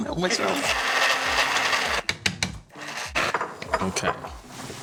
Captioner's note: processor blending